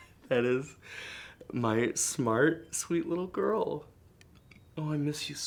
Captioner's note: laughs